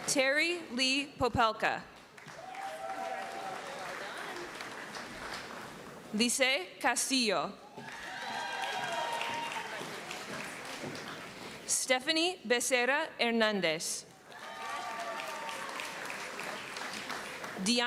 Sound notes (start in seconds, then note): 2.2 cheering; 7.7 cheering; 10.4 applause